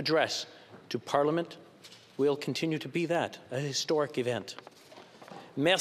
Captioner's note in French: voix de l'interprète